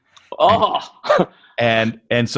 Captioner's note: laughs